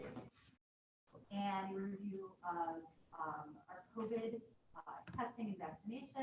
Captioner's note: group members chatting indistinctly